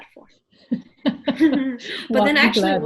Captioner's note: laughs